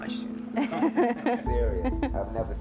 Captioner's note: laughter